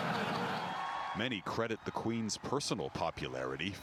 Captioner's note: laughter